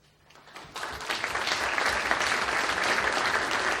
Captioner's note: audience applauds